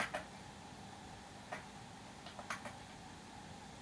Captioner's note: keyboard typing